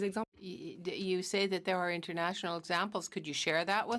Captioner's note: speaking in french